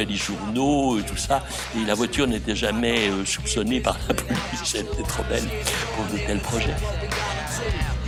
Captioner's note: laugh